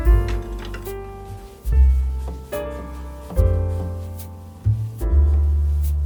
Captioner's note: clop clop clop